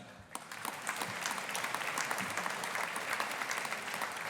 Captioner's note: audience applauding